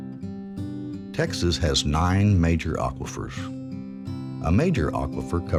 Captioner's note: voiceover